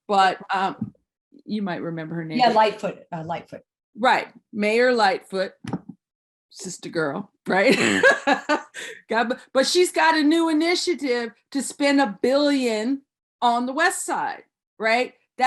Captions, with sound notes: but you might remember her name. - Yeah, Lightfoot, Lightfoot. - Right, Mayor Lightfoot, sister girl, right? (laughs) But she's got a new initiative to spend a billion on the West Side, right?